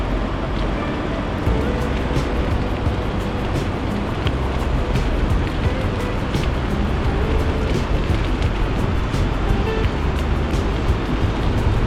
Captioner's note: wind Blowing